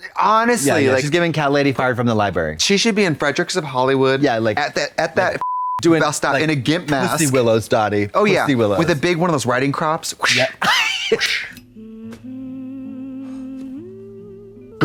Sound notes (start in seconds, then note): 5.4 beep